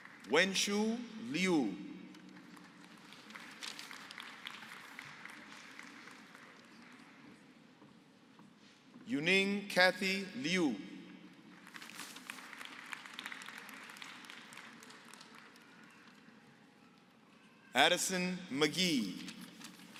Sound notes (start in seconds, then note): 2.1 applause; 11.5 applause